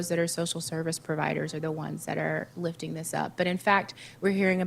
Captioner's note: none